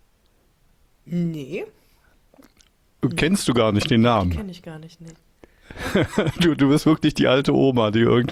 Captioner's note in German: gelächter